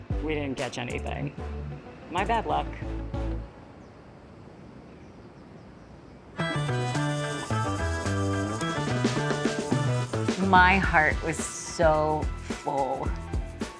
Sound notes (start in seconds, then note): 3.6 birds chirping; 3.6 wind blowing; 6.4 upbeat music